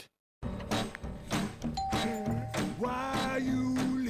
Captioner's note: doorbell